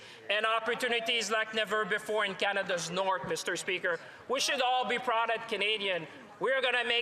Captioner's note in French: voix de l'interprète